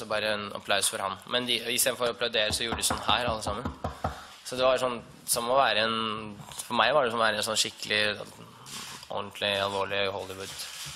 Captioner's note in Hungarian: megkopogtatja az asztalt